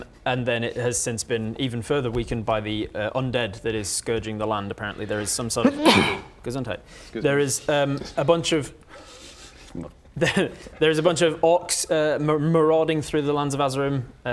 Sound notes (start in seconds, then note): 5.6 achoo!